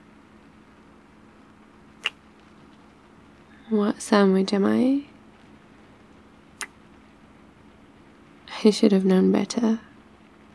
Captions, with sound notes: *kiss* what sandwich am I? *kiss* I should have known better